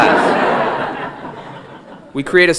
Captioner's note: audience laughing